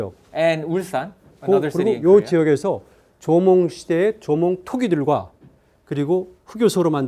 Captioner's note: speaking in Korean; speaking in Korean